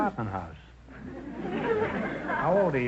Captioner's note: audience laughter